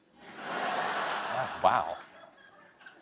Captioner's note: laughter